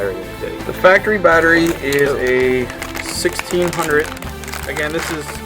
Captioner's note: voiceover